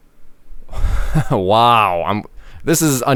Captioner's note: laughs